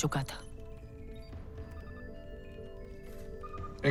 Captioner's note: beeping